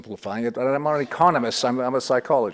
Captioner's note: audience titters